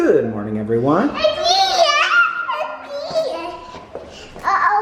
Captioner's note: squeals